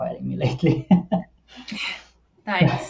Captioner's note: laughs